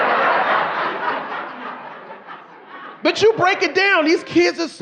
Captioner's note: audience laughing